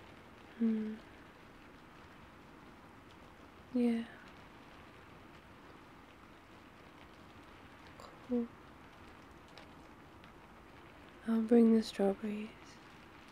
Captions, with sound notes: hmm yeah... *whispers* cool... I'll bring the strawberries...